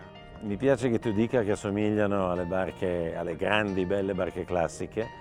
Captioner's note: speaking in foreign language